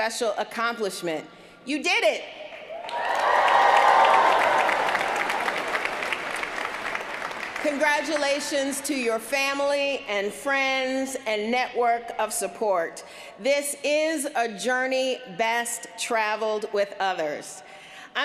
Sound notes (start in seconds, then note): 7.4 cheers & applause